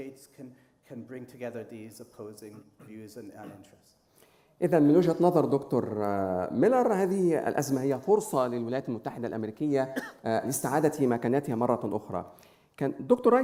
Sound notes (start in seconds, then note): 4.9 speaking in foreign language